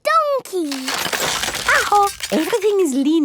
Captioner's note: house creaking